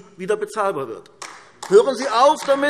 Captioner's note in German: Beifall AfD